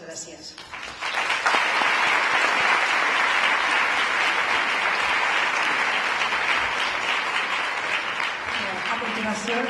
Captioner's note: applause